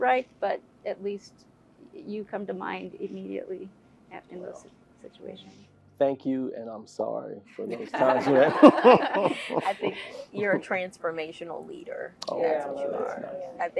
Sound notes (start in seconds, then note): 7.6 laugh